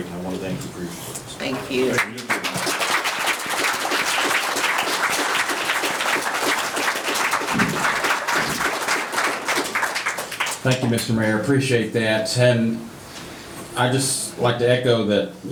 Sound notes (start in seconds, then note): 3.6 audience clapping